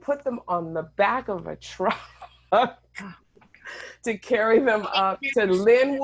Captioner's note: laughing